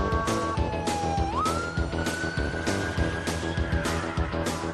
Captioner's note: sirens blaring